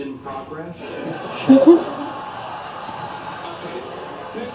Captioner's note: laughter